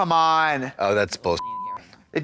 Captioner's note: beep